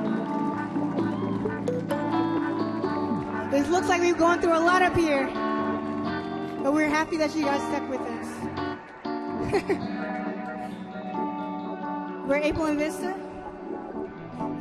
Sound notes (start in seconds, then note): 0.1 smooth electronic music; 9.3 chuckles